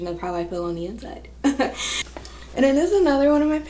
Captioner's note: chuckling